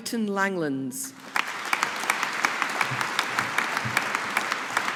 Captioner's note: audience applauding